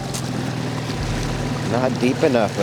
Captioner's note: boat engine revving